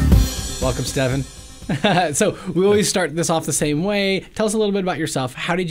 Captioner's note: laughs